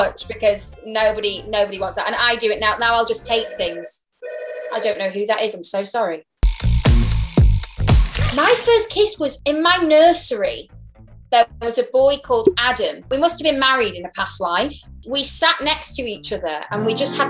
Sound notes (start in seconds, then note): 4.2 phone ringing; 6.5 upbeat music